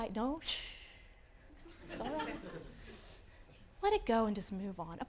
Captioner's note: audience laughing